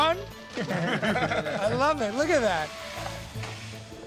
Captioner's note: all laughing